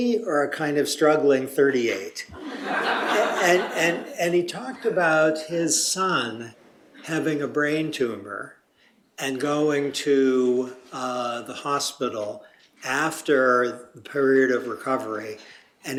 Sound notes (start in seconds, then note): 2.3 laughter